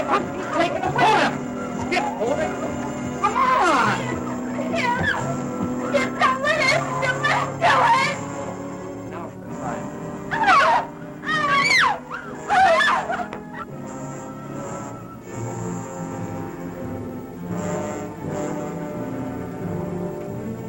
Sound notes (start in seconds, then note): 11.2 screaming; 14.0 suspenseful music